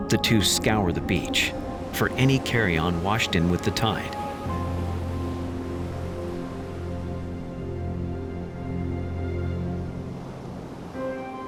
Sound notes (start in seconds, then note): 4.6 light music; 4.6 waves crashing